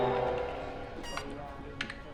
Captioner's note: machine beeps